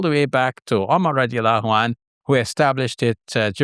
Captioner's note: speaking Arabic